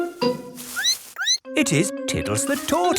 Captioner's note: squeaks